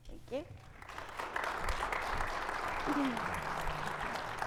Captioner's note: audience clapping